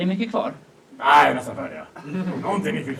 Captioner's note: audience laughs